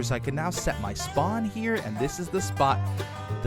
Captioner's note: none